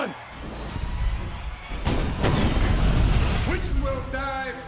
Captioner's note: crowd chatter